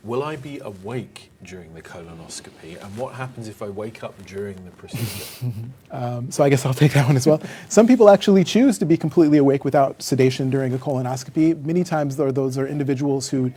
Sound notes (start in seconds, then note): 4.9 chuckles